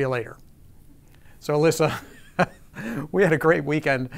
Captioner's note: chuckling